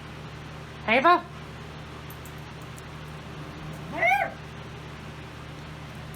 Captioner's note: Ella barks